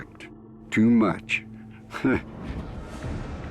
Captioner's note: laughs